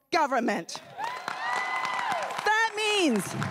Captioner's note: everyone cheering and applauding